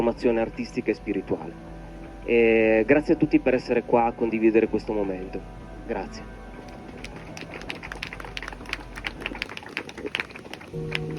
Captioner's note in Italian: Applauso